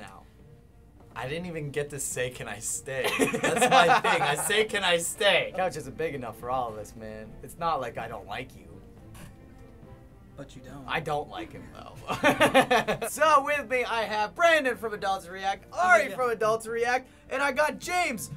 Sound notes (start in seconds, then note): 3.0 chuckling; 12.1 laughs